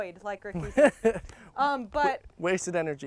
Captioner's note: man laughs